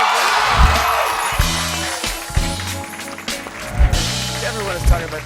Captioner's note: cheers and applause